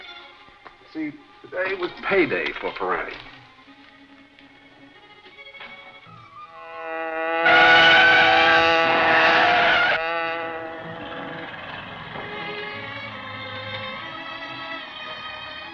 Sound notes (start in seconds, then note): 6.4 hornet buzzing; 6.6 tires squealing; 12.7 suspenseful music